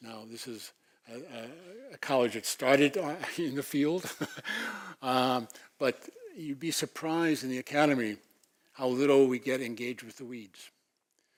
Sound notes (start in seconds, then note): 4.0 laugh